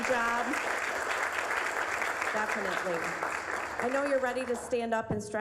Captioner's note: applause